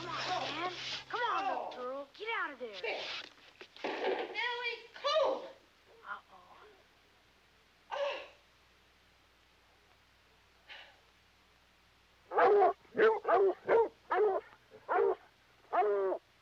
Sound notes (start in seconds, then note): 7.9 Jenny gasps; 12.3 dogs barking